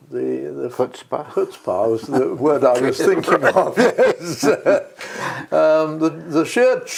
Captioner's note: laugh